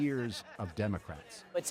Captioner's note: laughter